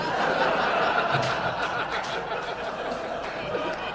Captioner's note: audience laughing